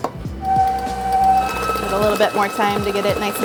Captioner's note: machine whirring